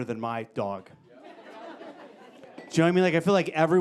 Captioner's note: audience laughing